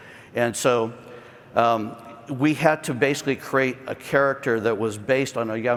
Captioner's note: none